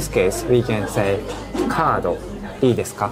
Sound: speaking in Japanese

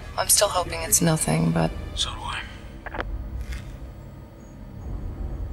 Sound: phone clicking

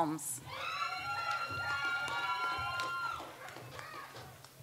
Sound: audience applauds

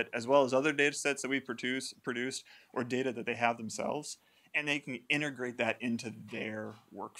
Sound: none

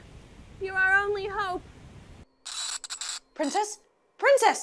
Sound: video glitching

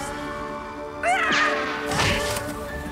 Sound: screaming

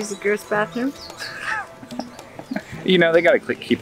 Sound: laughing

